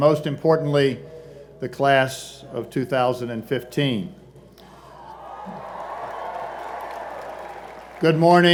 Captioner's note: cheers and Applause